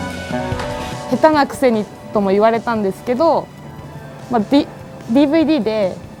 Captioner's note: upbeat music; speaking in foreign language